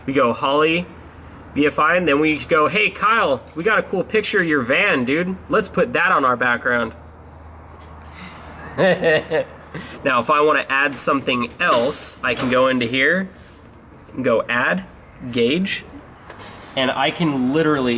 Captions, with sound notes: You go holley, BFI then just go hey Kyle, we got a cool picture of your van dude. Let's put that on our background. (laughs) Now if I wanna add something else, I can go into here and go add gauge, and I can literally do